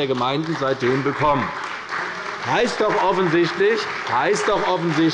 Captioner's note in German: Beifall bei der CDU und dem BÜNDNIS 90/DIE GRÜNEN